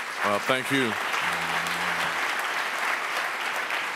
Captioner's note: audience applauds